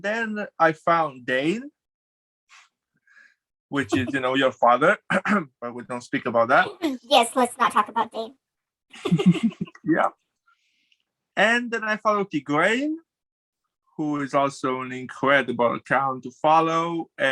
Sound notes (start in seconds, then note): 3.9 clears throat; 9.0 both laugh